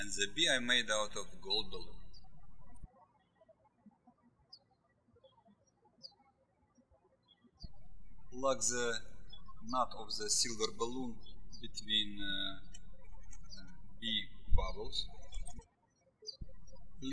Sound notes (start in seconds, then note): 5.5 birds chirping